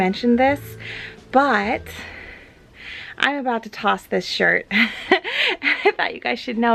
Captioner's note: laughs